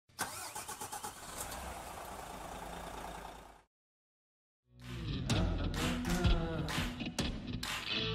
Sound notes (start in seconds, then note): 0.1 engine starting; 4.7 upbeat music